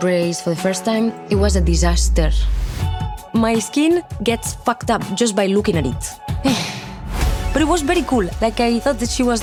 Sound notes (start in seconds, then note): 6.0 chuckles